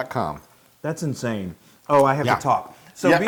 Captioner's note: laugh